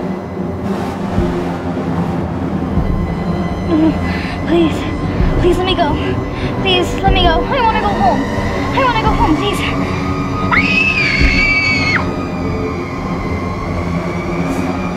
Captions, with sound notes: No, no, no. Please. Please let me go. Please let me go. I want to go home. I want to go home, please! [ Screaming ]